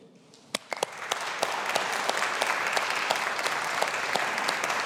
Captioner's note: audience applauding